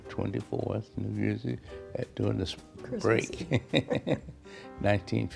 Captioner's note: laughs